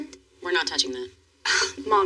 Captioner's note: scoffs